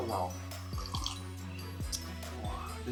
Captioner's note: slurp